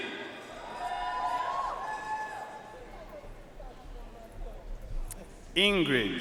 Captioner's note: audience cheering and applauding